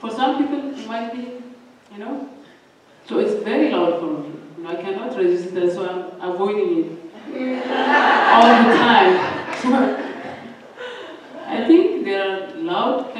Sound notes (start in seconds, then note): 7.4 laughter